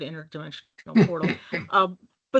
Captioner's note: chuckling